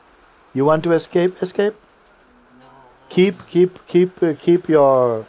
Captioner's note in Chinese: 团体的声音